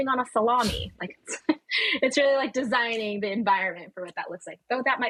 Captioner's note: laughing